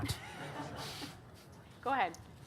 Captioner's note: audience laughing